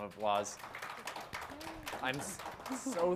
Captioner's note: group claps